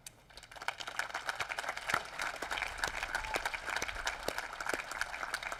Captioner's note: applause